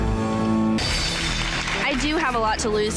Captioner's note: girls applauding